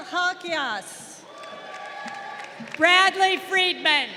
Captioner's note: crowd applauding